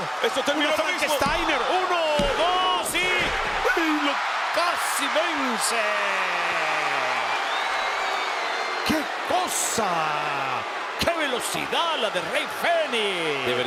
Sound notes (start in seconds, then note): 3.7 applause